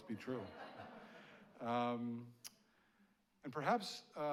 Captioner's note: audience laughing